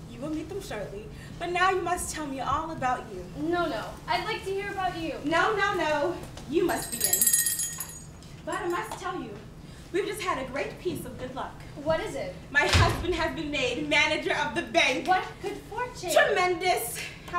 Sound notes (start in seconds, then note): 6.8 bell rings